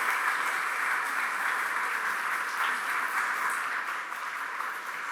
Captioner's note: applause